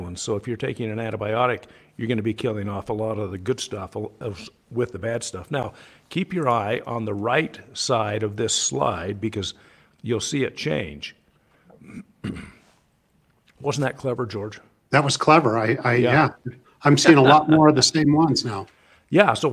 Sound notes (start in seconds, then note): 11.7 clears throat; 16.7 laughs